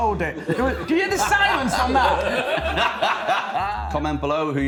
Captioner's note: laughing